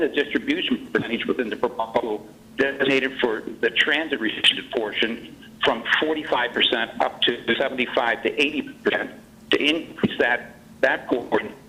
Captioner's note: choppy audio